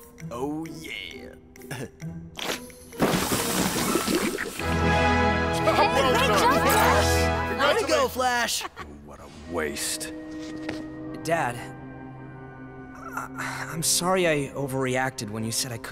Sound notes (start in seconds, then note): 3.0 pop; 4.6 triumphant tone; 5.5 all congratulating